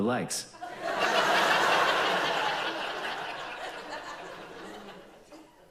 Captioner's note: audience laughs